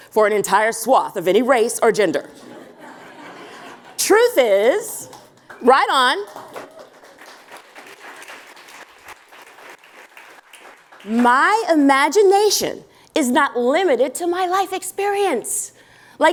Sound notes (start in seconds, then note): 6.7 applause